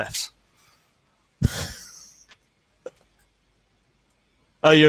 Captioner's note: laughing